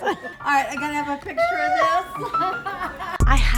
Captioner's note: laughing